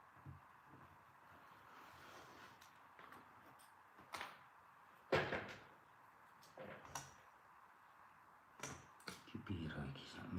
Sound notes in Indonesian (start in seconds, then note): none